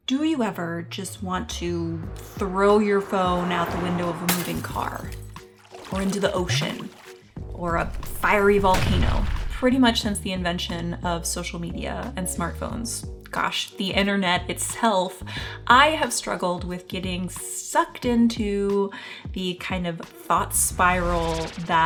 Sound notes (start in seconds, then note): 4.2 glass breaks; 6.3 water pouring; 7.6 volcano erupting